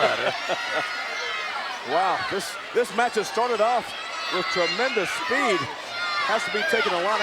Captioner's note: laugh